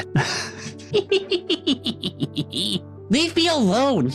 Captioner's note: laughing